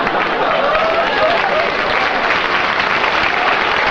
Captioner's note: applause